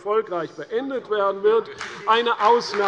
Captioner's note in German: Beifall bei der CDU